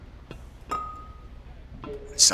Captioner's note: glass clinking